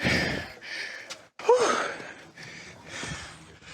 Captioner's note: sigh